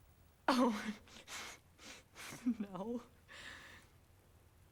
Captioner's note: giggles nervously